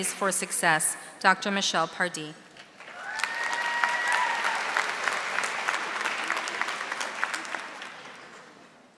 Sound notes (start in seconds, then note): 2.8 audience applauding